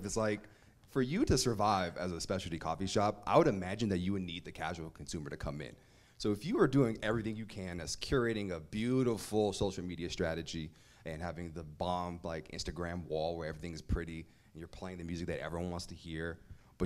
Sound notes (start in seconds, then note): none